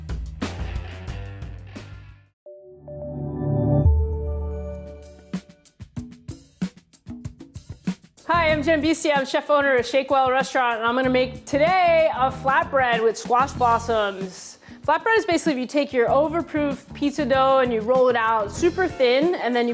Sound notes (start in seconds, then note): 2.5 chiming tones; 5.7 upbeat music